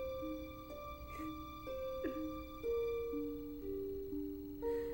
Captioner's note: mother sobs; tense music continues